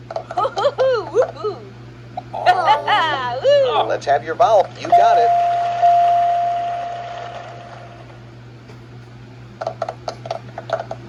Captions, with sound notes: (Maria cheers) (Martin and Tomoko groan) (Maria cheers) Let's have your vowel, Player 2. You got it.